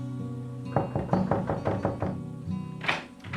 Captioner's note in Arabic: يطرق الباب